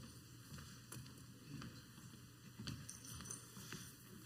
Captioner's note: foot steps